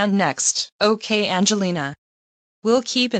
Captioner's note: on phone